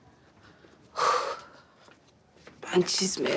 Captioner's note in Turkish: Nefes sesi